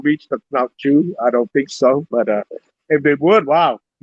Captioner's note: speaks in Cambodian